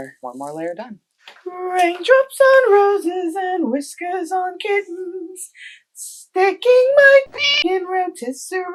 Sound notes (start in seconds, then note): 7.2 meow